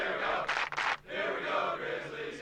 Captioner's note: clap clap